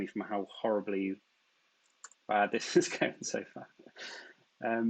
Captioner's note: chuckles